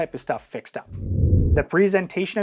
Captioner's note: air whooshing